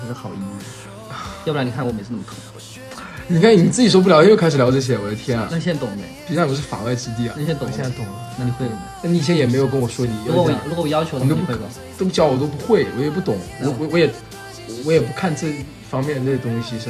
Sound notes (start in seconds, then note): 2.0 orgasms